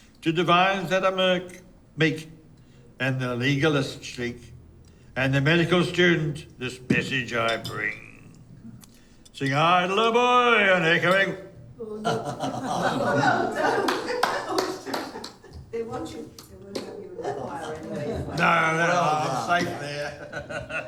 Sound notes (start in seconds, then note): 13.8 applause; 17.4 group chatter